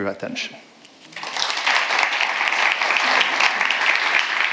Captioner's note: audience applauds